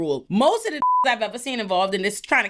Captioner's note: beep